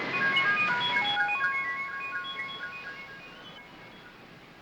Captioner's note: electronic beeping